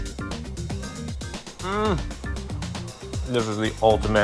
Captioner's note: moans